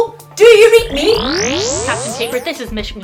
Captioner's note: short electronic whir